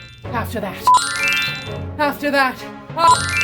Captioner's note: tinkling bells; tinkling bells